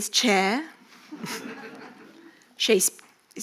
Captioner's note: audience laughing